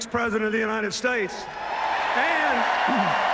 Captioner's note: cheers, applause